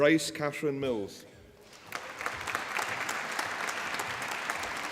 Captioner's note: applause